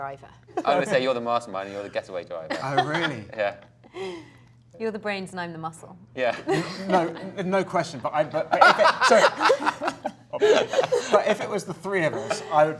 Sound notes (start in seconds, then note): 0.6 laughing; 2.5 laughing; 6.4 Felicity laughs; 8.5 all laughing